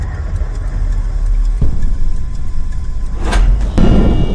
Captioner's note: dramatic music; lights clicking